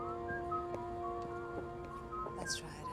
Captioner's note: whistling